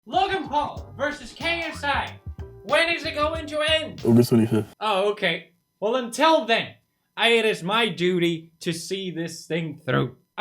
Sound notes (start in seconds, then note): 3.4 hMMmmM